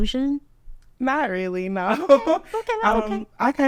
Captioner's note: laughs